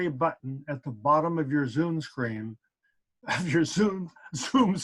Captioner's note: laughs